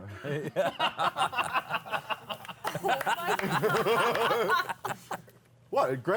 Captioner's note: laughter